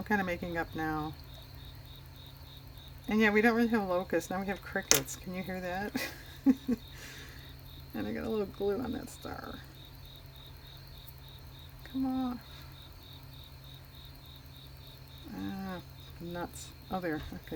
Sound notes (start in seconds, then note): 5.9 laughs